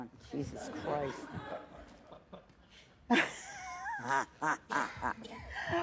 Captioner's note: laughter